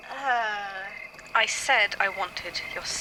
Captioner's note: A little uneven, with static